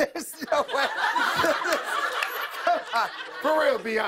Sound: laughter

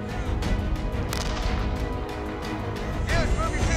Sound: blast noise

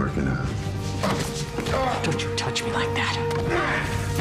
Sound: grunts

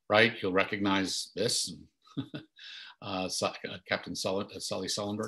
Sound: chuckles

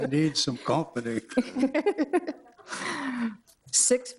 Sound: all laughing

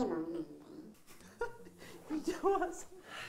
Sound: laughing

